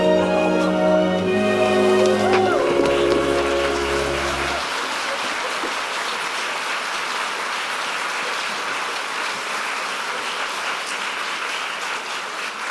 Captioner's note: applause